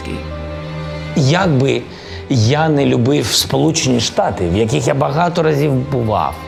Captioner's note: Zelenskyy speaking in Ukrainian